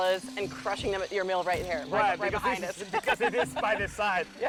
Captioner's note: laughing